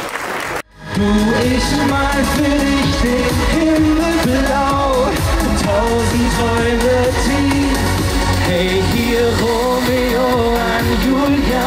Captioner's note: applause; cheers; cheers from the audience